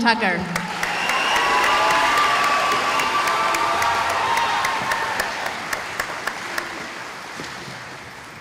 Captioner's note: cheering